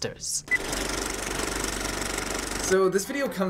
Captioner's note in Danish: filmrulle klikkelyde